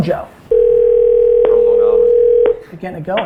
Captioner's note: phone ringing